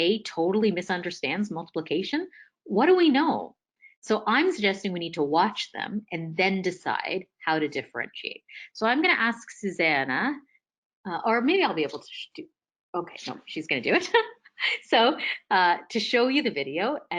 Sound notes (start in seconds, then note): 14.4 laughs